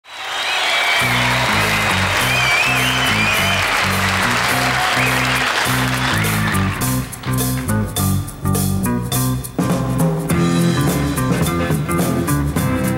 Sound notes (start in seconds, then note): 0.0 audience applauding; 0.9 upbeat R&B music; 11.0 upbeat R&B music